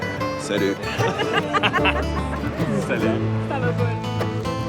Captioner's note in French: rires